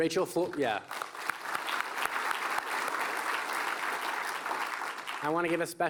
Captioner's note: applause